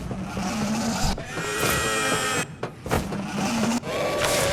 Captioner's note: engine revving